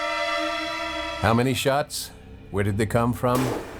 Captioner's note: anxious music; shotgun booming